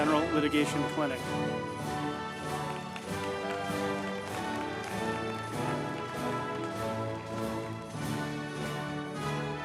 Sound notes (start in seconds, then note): 1.3 group applauding; 2.5 uplifting music